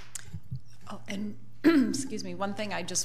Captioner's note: clears throat